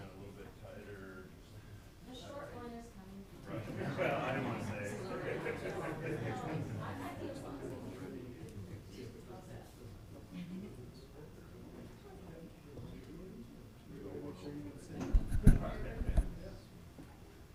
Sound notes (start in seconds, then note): 3.5 people chuckling; 5.9 people chattering distantly